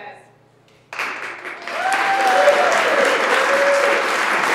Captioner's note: applauding